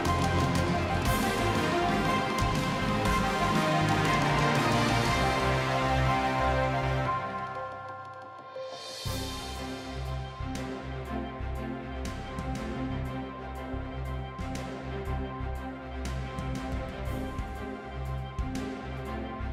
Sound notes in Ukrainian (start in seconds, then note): 5.2 оплески